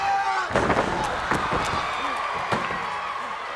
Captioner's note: Brutus yells